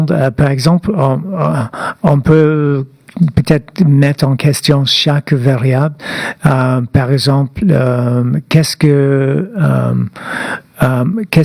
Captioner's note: speaking French